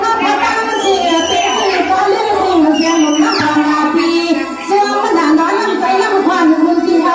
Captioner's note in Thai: ปรบมือ